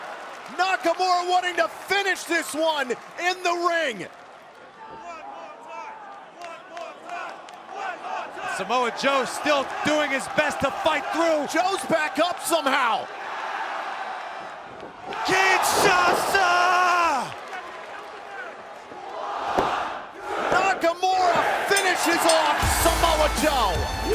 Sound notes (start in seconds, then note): 7.6 fans chanting; 21.7 bell ringing